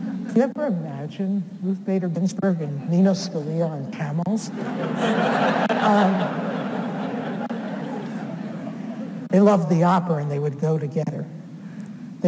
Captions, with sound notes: Could you ever imagine Ruth Bader Ginsburg and Nino Scalia on camels? (audience laughs) They loved the opera and they would go together.